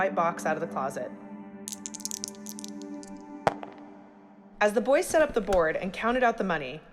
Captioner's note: soundbite of dice rolling